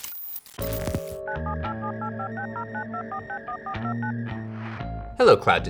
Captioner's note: phone dials